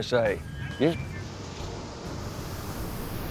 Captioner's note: water splashes